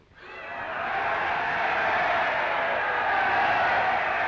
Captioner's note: crowd cheering